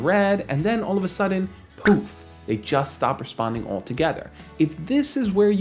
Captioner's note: poof